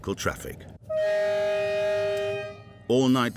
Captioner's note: train horn blaring